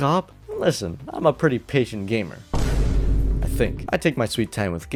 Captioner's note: boom